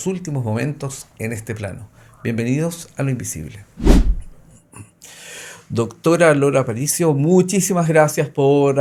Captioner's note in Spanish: carraspeo